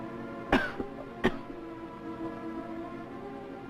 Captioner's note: coughing